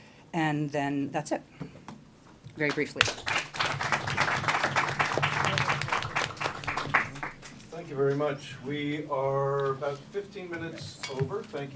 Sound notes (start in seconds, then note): 2.6 applause